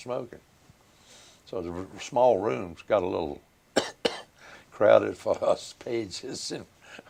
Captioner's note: coughs